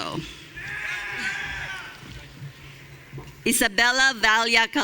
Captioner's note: audience cheering